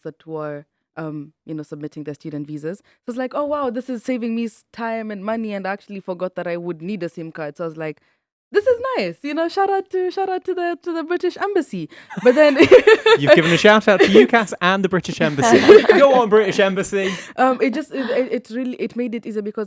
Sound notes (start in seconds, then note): 12.0 laughs